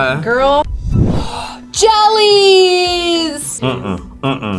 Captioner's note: gasps